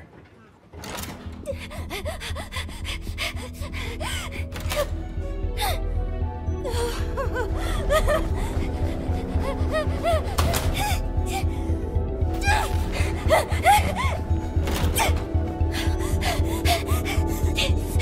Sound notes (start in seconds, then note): 1.5 Pomni panting; 7.6 Pomni panting and groaning